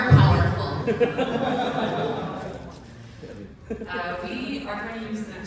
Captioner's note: laughter